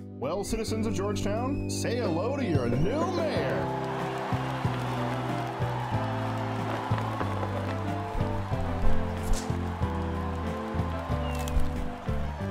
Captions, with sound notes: (Victory music) Well citizens of Georgetown.. Say hello to your new mayor! [Crowd cheers and claps]